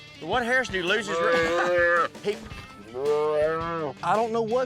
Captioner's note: calf mooing